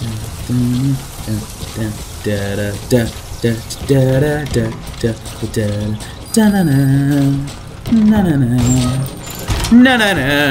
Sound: back to humming

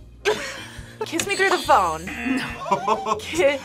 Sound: both laugh; buzzer; laughs

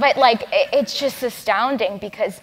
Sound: laugh

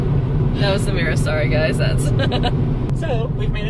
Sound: laughter

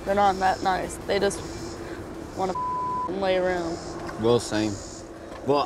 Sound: beep

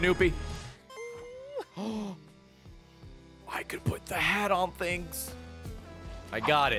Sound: gasps

